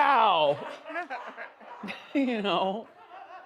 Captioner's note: audience laughs